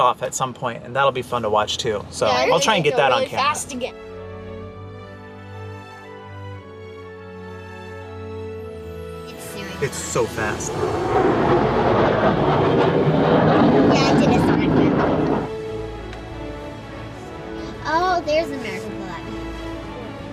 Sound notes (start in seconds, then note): 4.7 uplifting music; 11.4 airplane whooshing